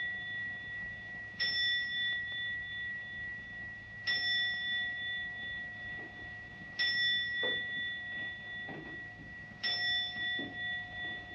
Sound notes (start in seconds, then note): 3.8 clock chiming continues